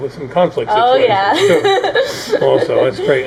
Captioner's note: laughing